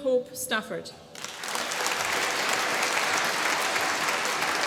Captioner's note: applause